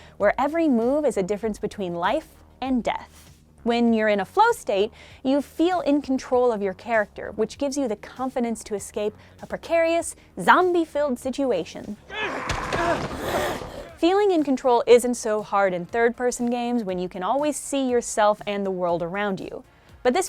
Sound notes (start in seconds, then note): 12.0 character yells; 12.1 zombie groans